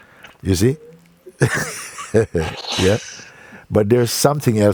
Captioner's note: Mooji laughs